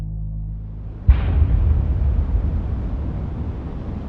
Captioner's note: deep hit; wind whooshing